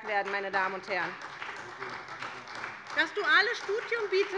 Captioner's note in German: Beifall bei der SPD